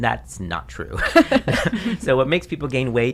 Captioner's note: laughs